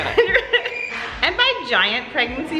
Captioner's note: laughing